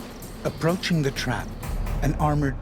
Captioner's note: voiceover